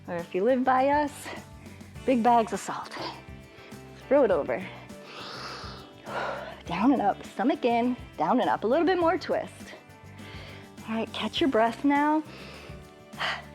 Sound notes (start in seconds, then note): 4.6 inhales and exhales; 12.9 exhales